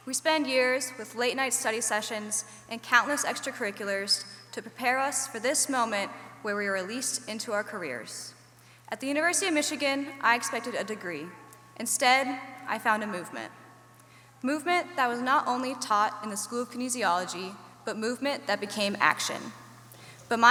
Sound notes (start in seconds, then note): none